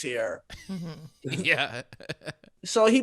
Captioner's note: chuckling